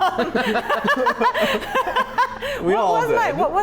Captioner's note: laugh